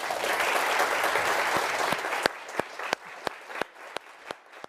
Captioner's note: audience applauding